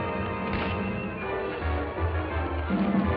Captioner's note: scuffling